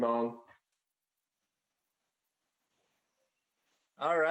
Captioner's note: speaking in Foreign Language